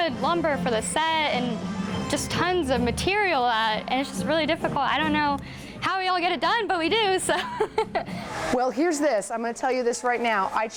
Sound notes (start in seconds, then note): 7.3 laughs